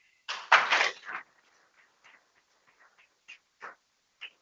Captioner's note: people clapping